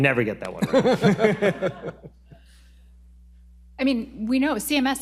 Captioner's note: panel laughs